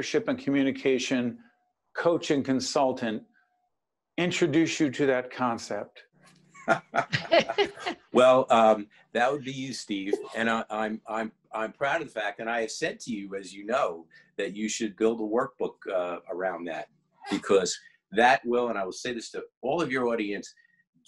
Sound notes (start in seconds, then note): 6.6 laughing